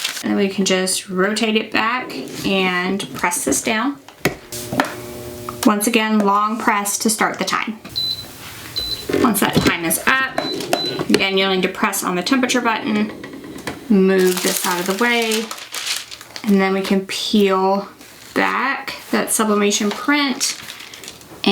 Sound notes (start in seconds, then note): 0.0 paper crinkles; 8.7 heat press bleeps